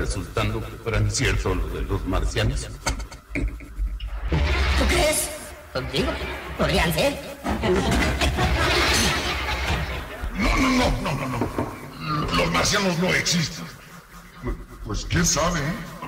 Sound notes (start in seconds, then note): 7.6 laughs